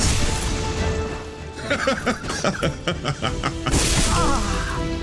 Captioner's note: laughs